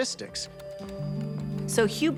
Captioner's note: keyboard typing